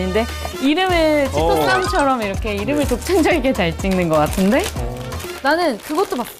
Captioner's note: haha